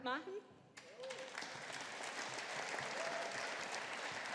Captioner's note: audience applauding